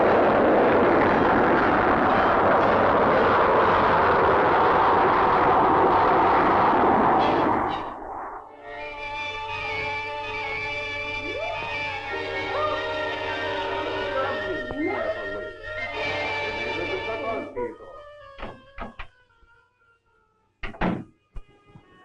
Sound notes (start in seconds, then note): 8.5 soft dramatic music; 13.8 Joseph chatters in Russian; 16.1 Joseph and Tanya chattering in Russian; 18.1 door clicks and thuds